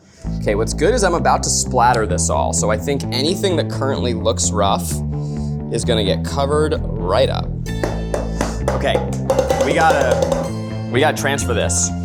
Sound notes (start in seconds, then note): 7.8 pan clinking